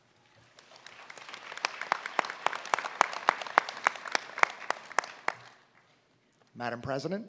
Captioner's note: applause